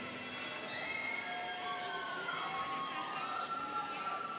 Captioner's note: students cheering